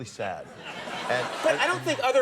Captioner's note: audience laughs